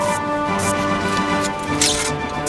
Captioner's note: dramatic music; electricity buzzes; electricity jolts